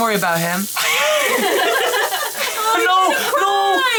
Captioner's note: people laughing